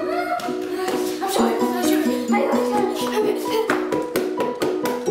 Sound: mumbling

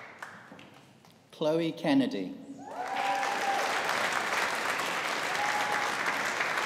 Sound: audience applauding

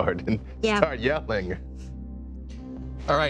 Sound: laughs

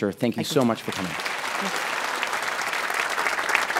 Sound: applause

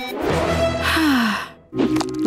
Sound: sighing

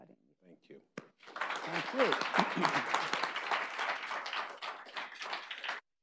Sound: audience applauding

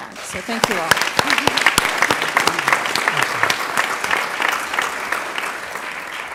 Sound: applause

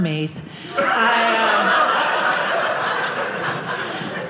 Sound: audience laughing

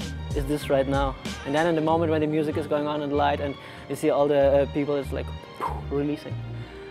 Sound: whew

